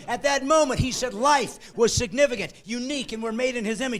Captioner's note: laughing